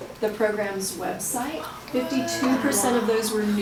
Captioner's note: audience exclaiming